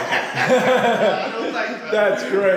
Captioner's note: group laughing